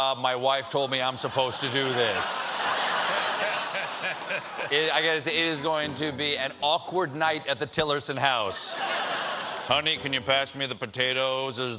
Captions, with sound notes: MY WIFE TOLD ME I'M SUPPOSED TO DO THIS." ( LAUGHTER ) IT IS GOING TO BE AN AWKWARD NIGHT AT THE TILLERSON HOUSE. "HONEY, CAN YOU PASS THE POTATOES, OR IS THERE ANOTHER